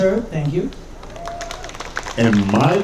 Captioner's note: audience cheering